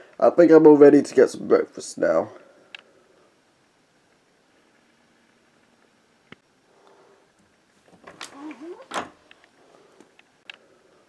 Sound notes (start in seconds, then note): 7.8 opening a door